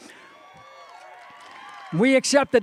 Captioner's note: cheering